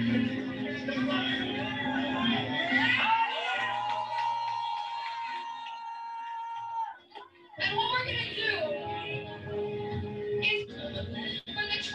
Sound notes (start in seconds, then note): 1.4 cheering